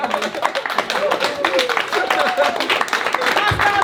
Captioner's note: crowd applauding; crowd cheering